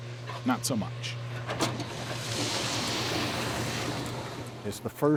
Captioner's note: machine whirring